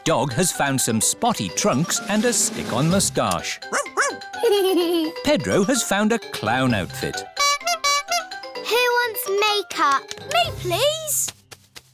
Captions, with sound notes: Danny Dog has found some spotty trunks and a stick-on mustache. Woof! Woof! (GIGGLES) Pedro has found a clown outfit. (TOOTS HORN) -Who wants make up? -Me, please!